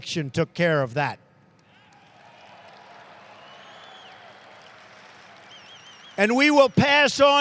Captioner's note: applause